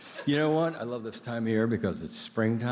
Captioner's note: laughter